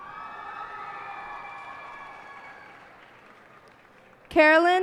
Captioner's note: cheers and applause